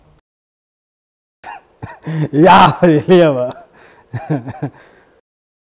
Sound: laughing; laughs

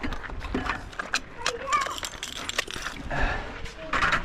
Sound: kids chatter

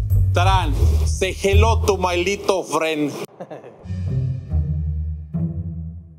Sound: laughing

